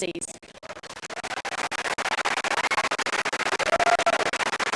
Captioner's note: applause